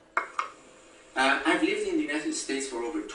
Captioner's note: voiceover